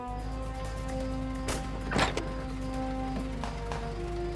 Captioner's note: guns firing